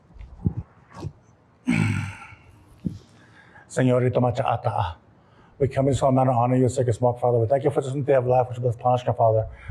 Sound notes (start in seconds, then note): 3.3 non-english speech